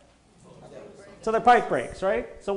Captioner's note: audience replies